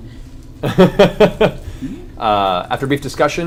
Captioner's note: laughs